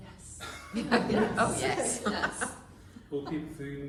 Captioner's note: laughter “Oh, yes”